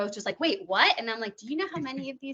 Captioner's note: chuckling